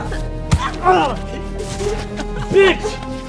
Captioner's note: speaking in a foreign language; groaning; thumping; Rex laughing